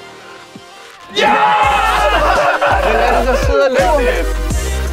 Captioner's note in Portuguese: Risada empolgante